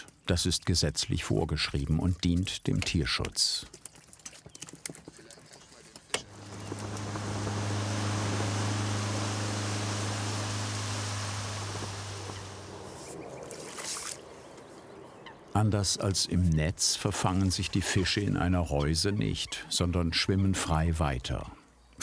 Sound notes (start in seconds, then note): 7.5 engine noise; 12.8 birds chirping